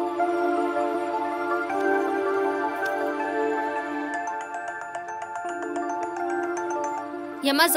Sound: mobile ringing

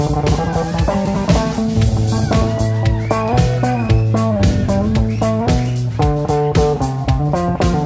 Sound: crowd cheering and applause

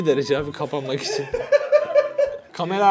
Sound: laughter

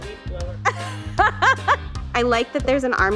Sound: laughs

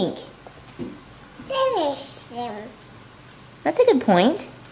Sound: baby babbling

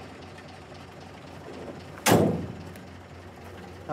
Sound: door slamming

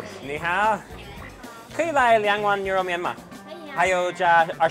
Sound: speaks in Chinese

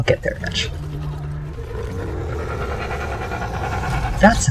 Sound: Gutterel growling noise

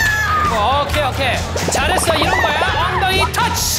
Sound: flap, flap

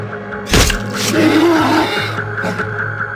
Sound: screaming

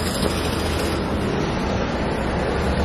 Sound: city sounds

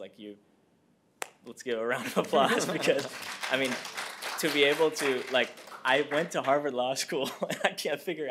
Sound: applause

